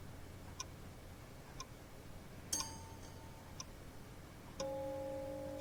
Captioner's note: clock ticking